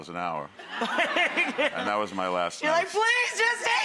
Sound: laughing

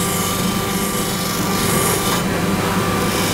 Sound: soft machine noise

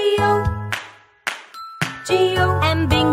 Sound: clap

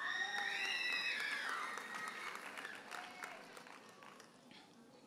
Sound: audience cheers and applauds

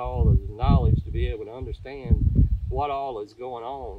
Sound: wind blowing

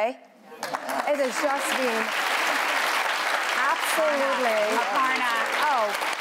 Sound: applause

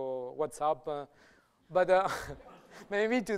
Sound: light laughter

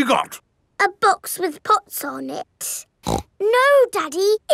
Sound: snorts

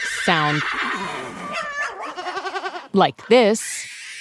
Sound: ARCHIVE CLIP: Horse neighing; ARCHIVE CLIP: Bird calls; ARCHIVE CLIP: Cat meowing; ARCHIVE CLIP: Screeching bird

